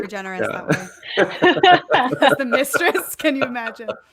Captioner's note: laughing